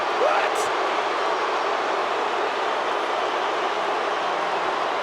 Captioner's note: crowd boos